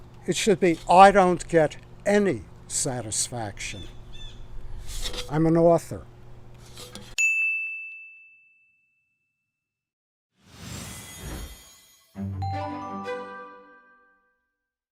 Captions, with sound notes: it should be I don't get any satisfaction. I'm an author. (bell chiming) (digital beeping) (lively music)